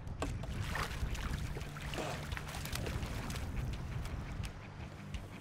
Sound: fish splashing

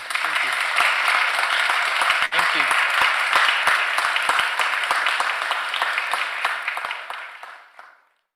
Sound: applause

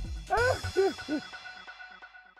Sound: laughing

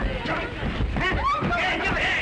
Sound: fighting sounds; scream

